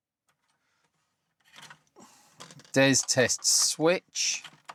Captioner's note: keyboard Clattering